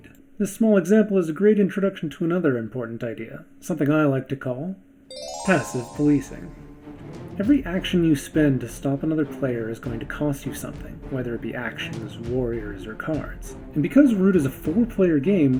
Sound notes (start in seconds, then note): 5.1 fairy noises